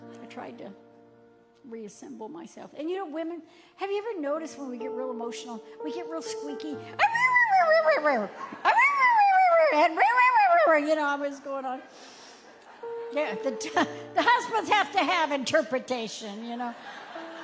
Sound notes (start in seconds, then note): 6.9 vocalizing; 8.3 audience laughing; 16.6 audience laughing